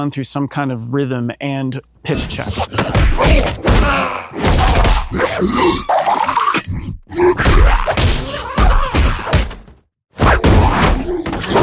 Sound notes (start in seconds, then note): 2.2 bodies and energy thudding and slashing